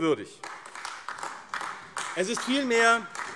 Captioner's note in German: Beifall AfD